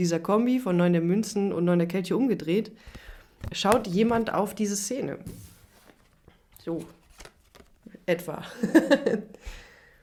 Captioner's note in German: gelächter